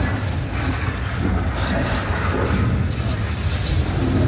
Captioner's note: flames flickering